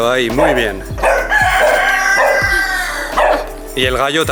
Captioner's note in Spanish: Edit: Un gallo cacarea fuerte y el perro sigue ladrando fuerte